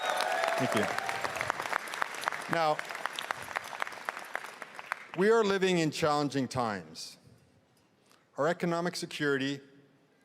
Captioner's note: cheering and applause